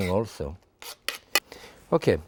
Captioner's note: spoon scraping